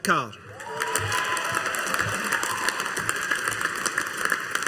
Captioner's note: audience applauding